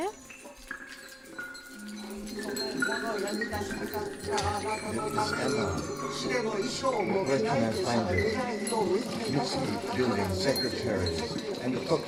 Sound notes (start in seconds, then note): 4.6 beads rattling; 4.6 reciting; 7.4 reciting